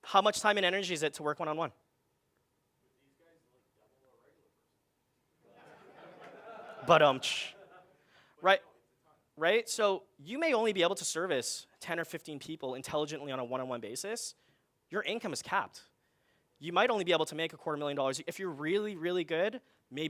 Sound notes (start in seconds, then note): 5.5 audience laughing